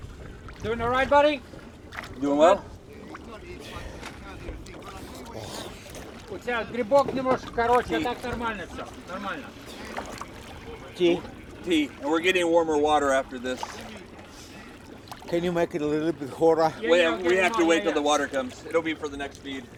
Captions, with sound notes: Doing alright, buddy? Doing well? [SPEAKING RUSSIAN] [SPEAKING RUSSIAN] Tea? We're getting warmer water after this. Can you make it a little bit hotter? We have to wait till the water comes. It'll be for the next feed.